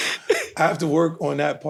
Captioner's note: chuckling